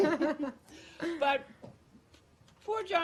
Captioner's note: laughter